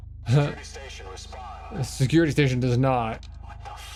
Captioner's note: chuckles